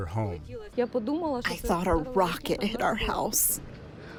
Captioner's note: through translator